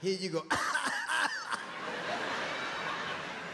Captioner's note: coughing